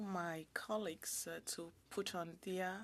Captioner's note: speaking French